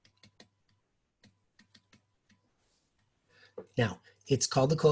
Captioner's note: stylus typing